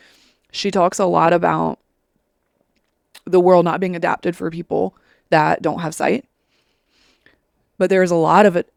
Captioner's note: sniffles